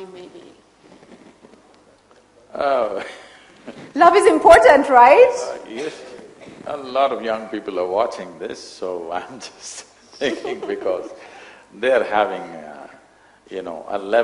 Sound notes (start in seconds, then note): 11.0 laughs